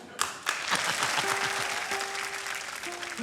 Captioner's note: laughs